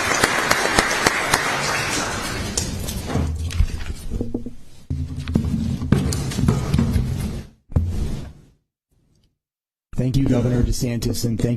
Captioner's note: applause